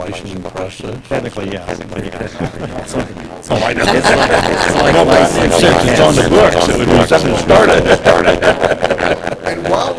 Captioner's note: laughter